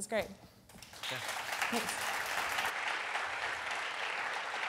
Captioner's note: audience applause